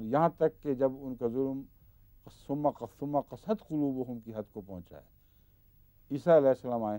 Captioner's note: Arabic